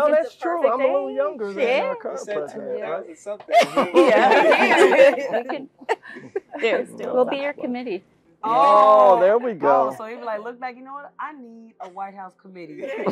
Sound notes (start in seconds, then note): 3.4 laugh